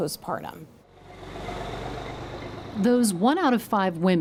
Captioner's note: truck rumbling